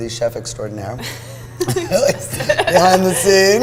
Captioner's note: laughs